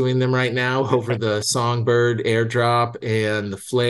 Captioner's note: laughs